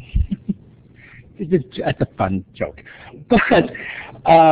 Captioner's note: laughter